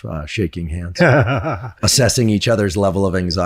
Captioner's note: chuckles